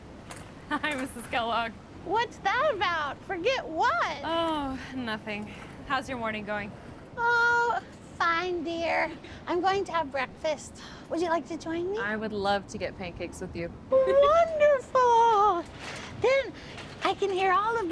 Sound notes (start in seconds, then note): 0.9 laughs